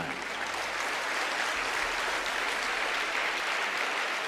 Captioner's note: applause